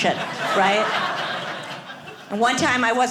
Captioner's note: audience laughing